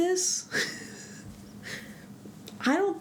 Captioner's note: laugh